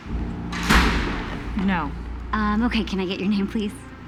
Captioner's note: door slams